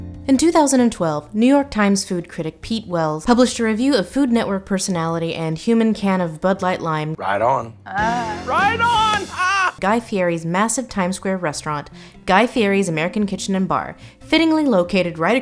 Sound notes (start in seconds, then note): 7.9 laughs